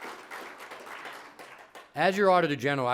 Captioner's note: applause